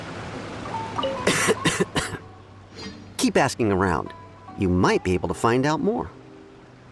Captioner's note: cough